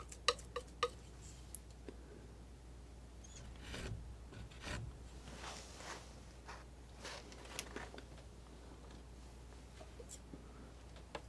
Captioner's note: scratching